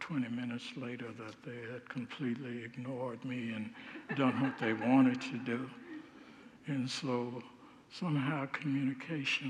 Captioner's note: congregants laugh